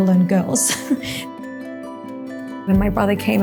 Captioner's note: Maria laughing